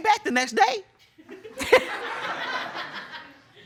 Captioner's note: laughter